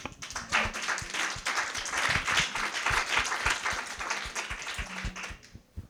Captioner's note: applause